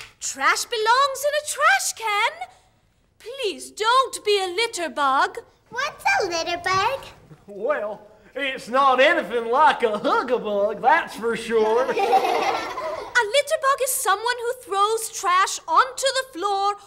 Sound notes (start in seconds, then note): 11.4 kids laughing